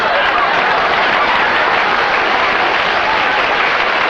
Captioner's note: applause